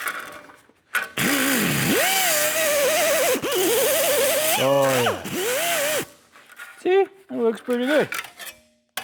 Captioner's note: blowing